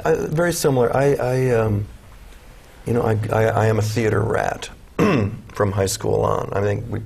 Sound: clears throat

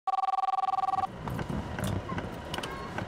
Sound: phone ringing

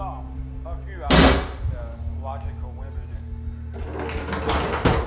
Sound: cabinet bangs

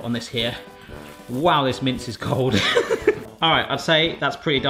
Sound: laughs

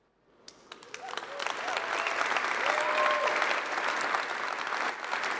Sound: applause

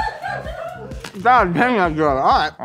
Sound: laughing

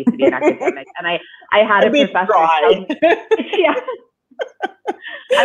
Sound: laughing

